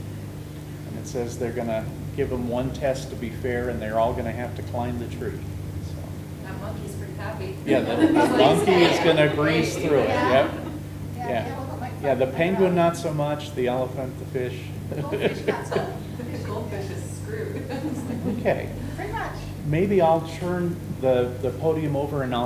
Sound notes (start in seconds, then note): 7.7 everyone laughing; 14.9 laughs; 17.5 laughing